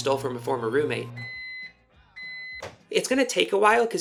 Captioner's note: microwave beeping